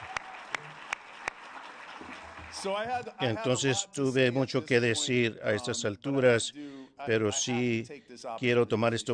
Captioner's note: applause